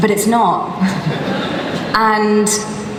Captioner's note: laughter